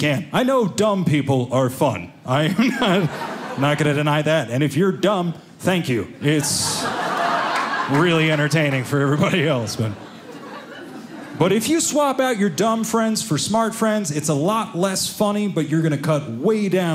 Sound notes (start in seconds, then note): 9.4 audience laughing